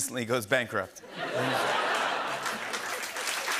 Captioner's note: cheers and applause